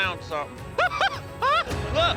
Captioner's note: excited laughter